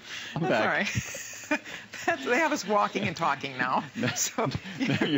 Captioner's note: laughter